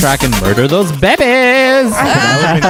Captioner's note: laughter